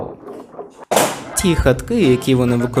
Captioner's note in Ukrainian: палочка впала